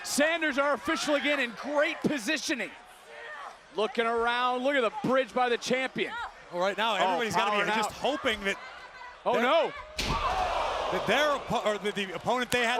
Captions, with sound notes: Sanders our official, again in great positioning. Looking around, look at the bridge by the champion. Well, right now, everybody's gotta be just hoping that, Oh no. (crowd cheering) That their opponent